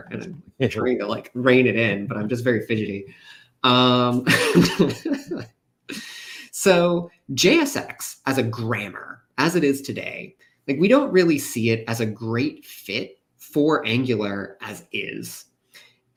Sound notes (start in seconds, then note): 4.2 laughs